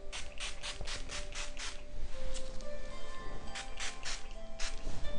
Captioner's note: spray bottle spritzing; relaxing music